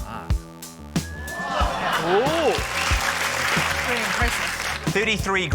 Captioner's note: audience exclaims, applauds